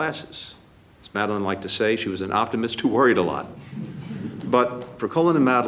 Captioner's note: laughter